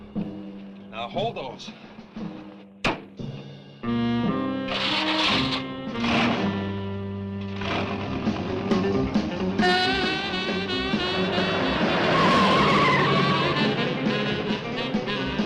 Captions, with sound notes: Now hold those. (dramatic music) (engine cranks) (suspenseful music) (tires screeching)